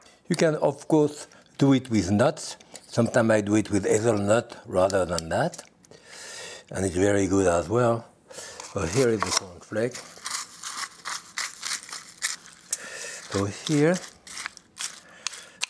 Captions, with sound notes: You can, of course, do it with nuts, sometimes I do it with hazelnut rather than that, and it's very good as well. So here is the cornflake. (crunching) So here.